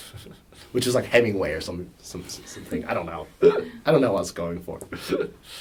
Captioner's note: laughs